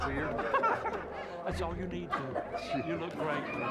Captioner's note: giggling